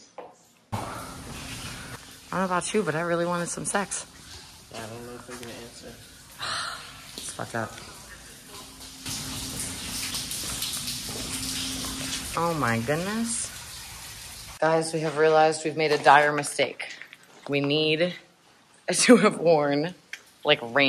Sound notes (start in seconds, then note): 9.2 sigh